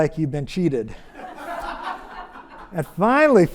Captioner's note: audience laughs